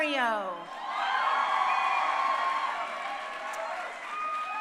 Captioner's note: crowd cheering